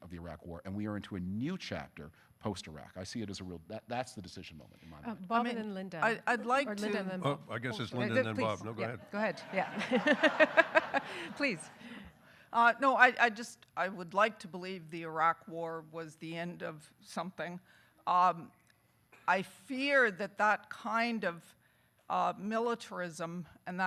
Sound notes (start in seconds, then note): 9.2 audience laughing